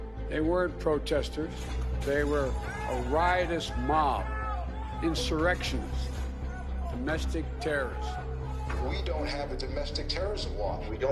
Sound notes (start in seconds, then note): 7.8 shouting